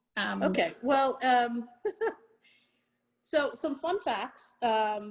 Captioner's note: chuckles